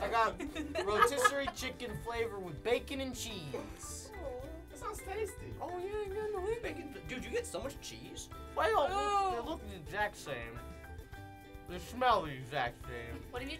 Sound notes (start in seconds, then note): 0.1 laughter; 5.8 mockingly